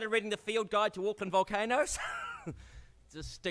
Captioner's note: laughs